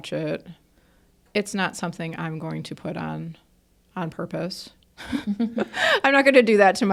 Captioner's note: laughs